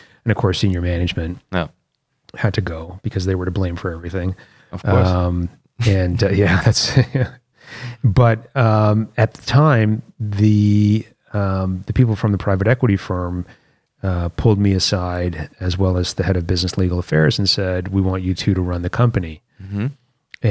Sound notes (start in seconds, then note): 6.4 laughter